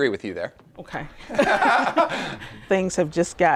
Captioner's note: laughing